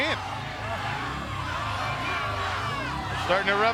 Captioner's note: fans cheering; motorcycle engine revving